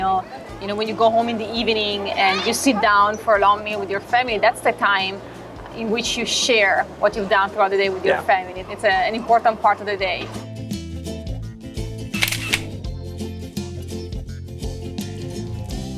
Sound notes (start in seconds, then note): 10.4 relaxing upbeat music; 12.2 camera clicking